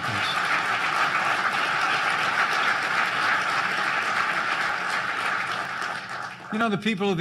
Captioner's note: applause